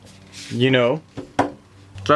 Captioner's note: pats fridge